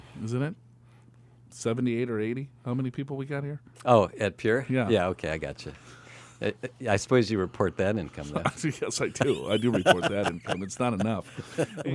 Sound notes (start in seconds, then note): 9.0 laughs